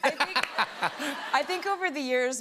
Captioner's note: laughter